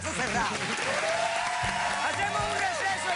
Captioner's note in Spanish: Aplausos